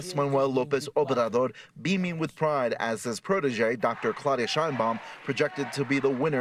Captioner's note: speaking non-english